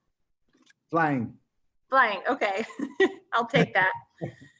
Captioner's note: laughs